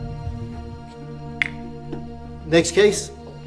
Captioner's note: gavel bangs